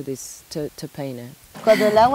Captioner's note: in Spanish